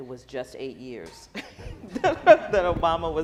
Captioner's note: laughing